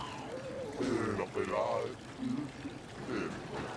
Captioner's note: speaking alien language